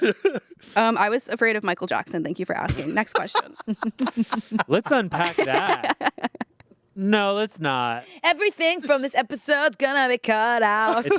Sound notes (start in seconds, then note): 2.8 everyone laughs